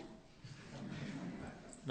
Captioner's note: laughter